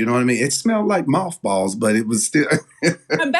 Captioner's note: laugh